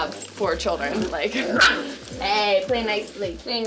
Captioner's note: puppy barks